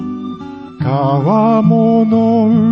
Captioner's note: none